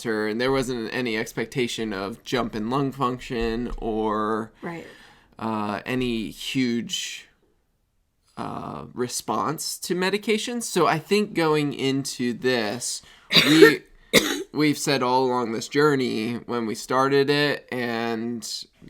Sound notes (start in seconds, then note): 13.3 coughing